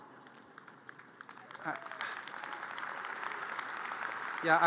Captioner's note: audience applause